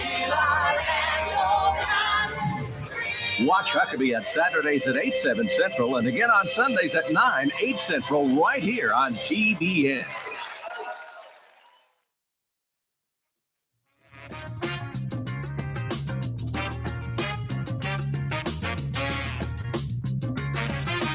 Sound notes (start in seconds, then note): 10.0 audience applauding; 14.1 mellow jazz music